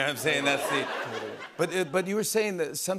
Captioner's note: laughter